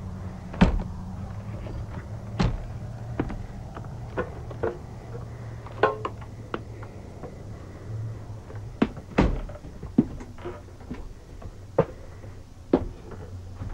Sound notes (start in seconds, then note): 1.3 floor creaking